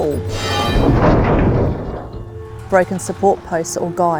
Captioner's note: metal clanging and crashing